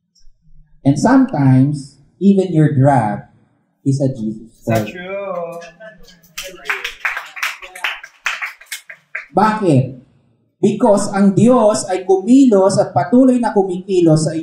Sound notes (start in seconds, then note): 4.7 scattered applause